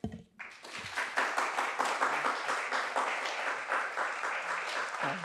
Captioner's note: applause